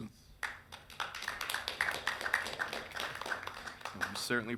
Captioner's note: council Members applauding